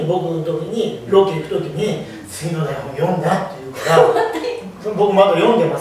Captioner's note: laughs